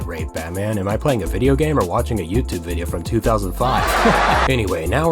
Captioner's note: audience laughs hysterically